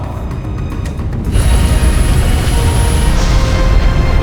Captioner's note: launching sound